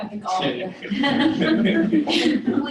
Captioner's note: laughter